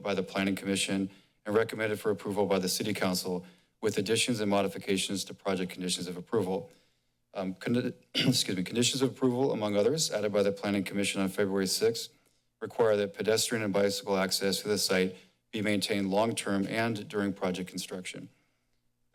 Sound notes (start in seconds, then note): 8.1 clears throat